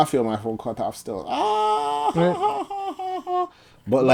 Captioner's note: laughing